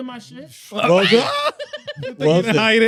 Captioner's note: laughing